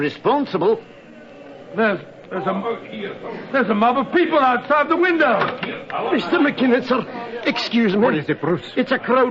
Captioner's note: the noise of the crowd